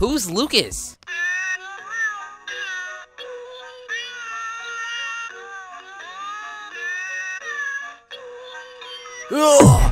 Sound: cats meowing the "Happy Birthday" song

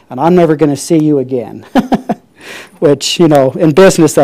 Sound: laughs

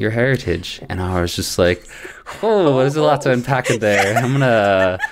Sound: laughter

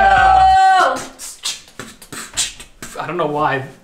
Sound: beatboxing

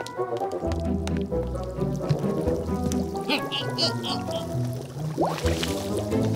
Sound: cauldron is simmering

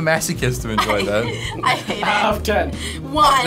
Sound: laughs

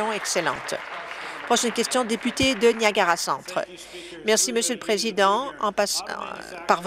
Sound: applause

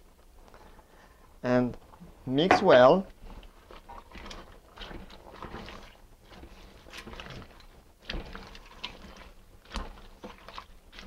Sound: mixing sounds

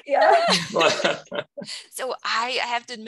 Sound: crowd laughs

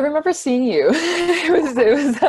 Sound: laughs

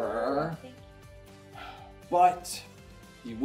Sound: exhales loudly

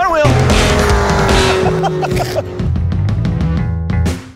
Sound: man laughs; soft music

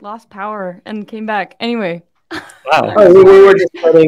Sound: laughs

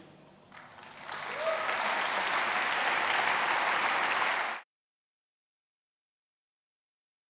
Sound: audience applause

